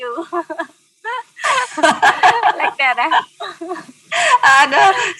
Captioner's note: laughing